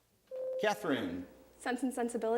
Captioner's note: bell rings